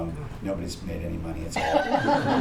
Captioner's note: laughter